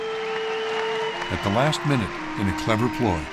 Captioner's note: cheering and applause